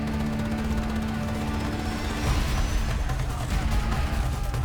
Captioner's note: gunfire